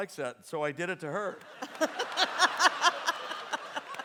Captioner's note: audience laughs